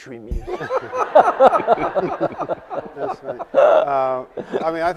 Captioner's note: panelists laughing